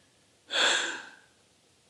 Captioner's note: amused sigh